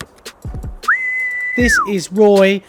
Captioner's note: whistling